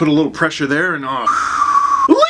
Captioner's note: exhales